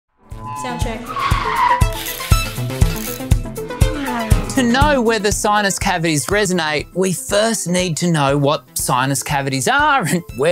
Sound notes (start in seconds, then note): 0.2 tires screeching; 0.2 electronic synth music; 4.1 engine revving